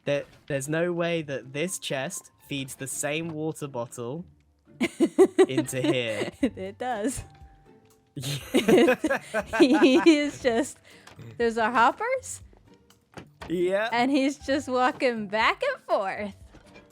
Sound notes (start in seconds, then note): 4.8 laughs; 8.2 laughter